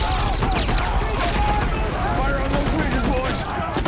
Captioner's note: gunfire